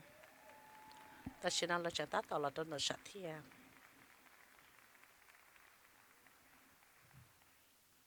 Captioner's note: applause; cheers and applause